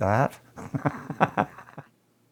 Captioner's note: laughter